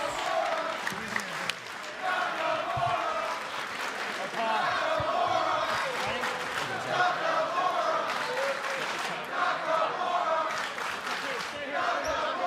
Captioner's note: applause; fans chanting